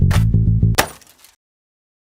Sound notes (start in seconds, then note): 0.8 clank